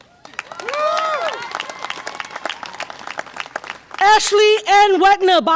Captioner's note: audience applause and cheer